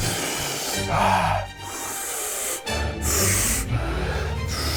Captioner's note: stammers; inhaling sharply